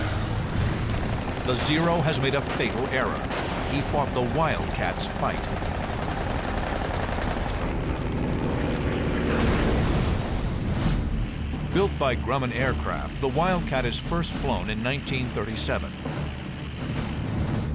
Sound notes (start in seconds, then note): 5.3 gunshots; 8.7 explosion